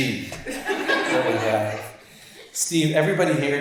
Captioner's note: audience laughs